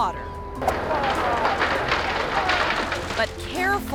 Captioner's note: yacht crumbling